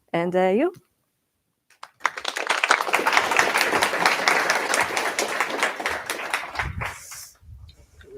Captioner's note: applause